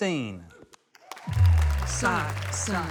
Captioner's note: applause